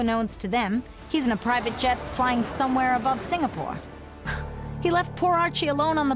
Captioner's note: laughs